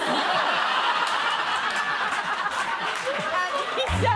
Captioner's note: laughter; sad tuba plays